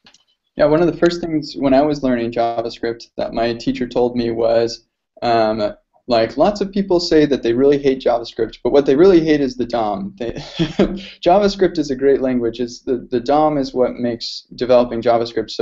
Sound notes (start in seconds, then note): 10.3 laughs